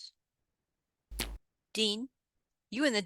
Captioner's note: something twangs